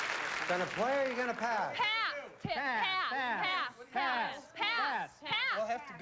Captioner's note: all shouting pass